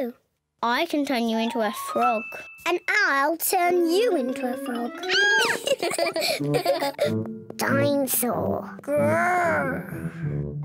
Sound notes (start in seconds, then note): 5.0 squeals; 5.2 both giggle